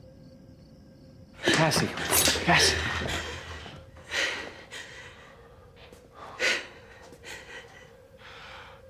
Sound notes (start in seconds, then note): 2.2 breathes heavily